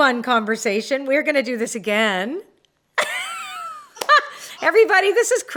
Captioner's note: laughs